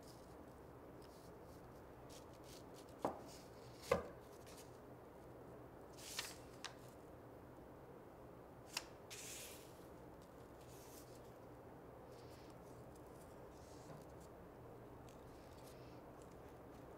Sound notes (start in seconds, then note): none